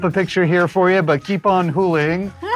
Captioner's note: laughs